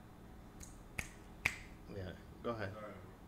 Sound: clicking fingers

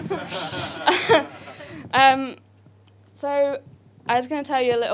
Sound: audience laughs

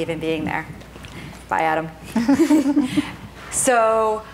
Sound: chuckles

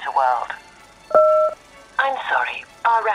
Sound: dialling extension number

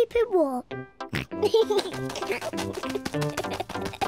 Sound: snorts and giggles

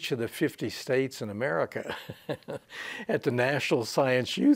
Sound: he chuckles softly

